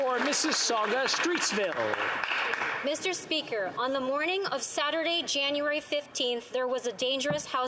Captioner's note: applause